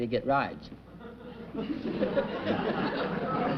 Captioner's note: chuckling